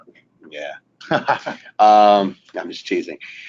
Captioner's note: laughing